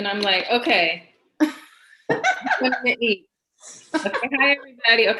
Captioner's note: laughs